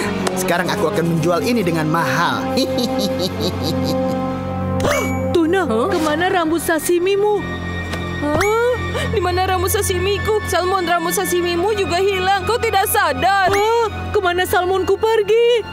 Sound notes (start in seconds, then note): 2.5 maniacal laughter